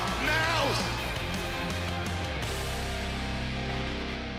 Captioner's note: crowd cheering